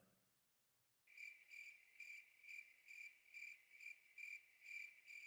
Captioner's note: crickets chirping